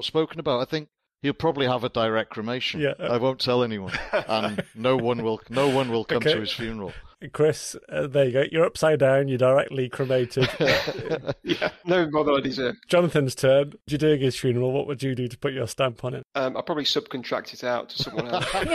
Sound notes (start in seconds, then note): 10.0 laugh